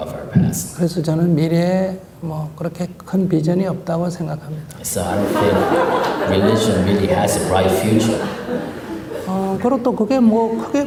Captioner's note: audience Laughter